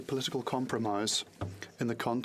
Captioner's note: speaking French